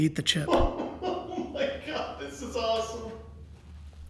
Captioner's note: laughing